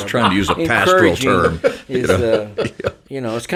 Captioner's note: laughing